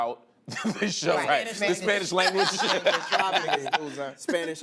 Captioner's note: laughter